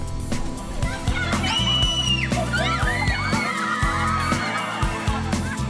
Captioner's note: shrieking happily